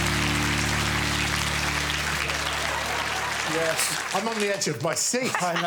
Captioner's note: audience applauding